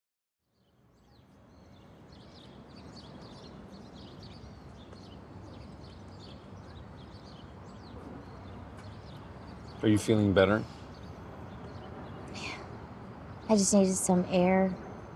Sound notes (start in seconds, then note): 1.7 birds chirping